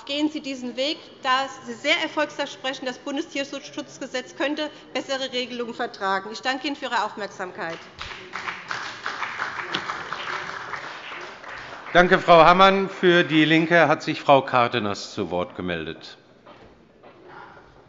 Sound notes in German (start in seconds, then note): 7.7 Beifall bei dem BÜNDNIS 90/DIE GRÜNEN und der CDU